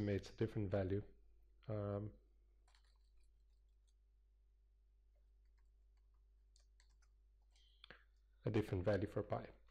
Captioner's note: pause